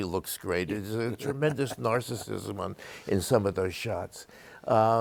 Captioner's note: laughing